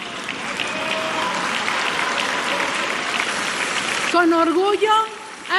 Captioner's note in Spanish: aplausos